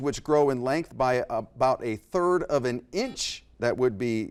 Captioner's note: beep